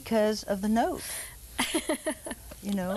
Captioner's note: laughing